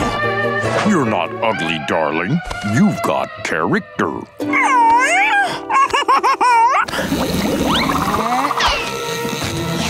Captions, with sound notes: You're not ugly, darling, you've got character. [chuckling]